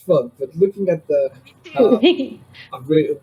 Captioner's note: laughs